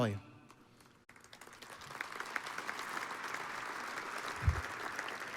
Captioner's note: audience applauds